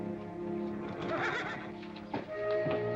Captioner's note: horse neighs